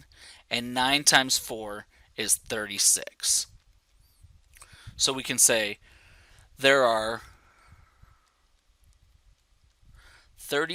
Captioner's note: pause